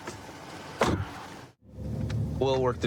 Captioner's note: car door closes